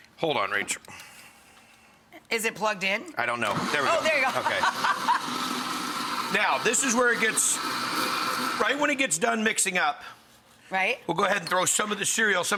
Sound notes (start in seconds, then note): 3.4 blender starts